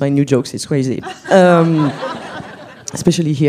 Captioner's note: laughs